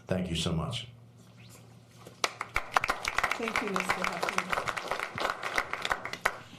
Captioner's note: applause